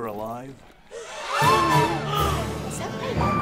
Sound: gasps

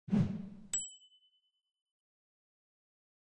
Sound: whooshing sound

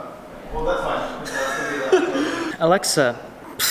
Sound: laughs

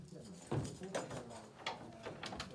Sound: TV plays

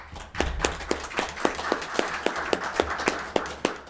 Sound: all applauding

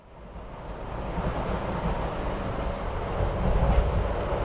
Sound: train noises

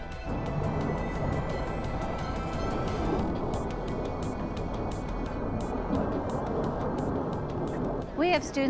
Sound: jets flying

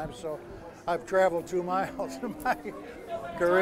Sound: laughs

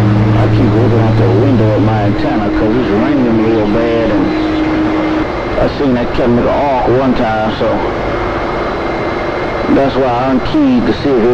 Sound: tones

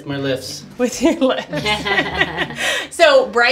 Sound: laughing; laughs

